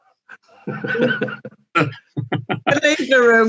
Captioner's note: laughter